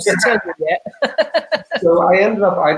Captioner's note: laughing